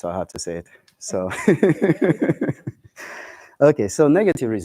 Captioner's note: laughter